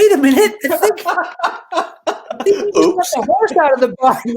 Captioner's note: laughing